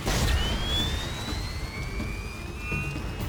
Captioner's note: exploding